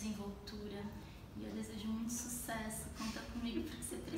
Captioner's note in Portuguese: risos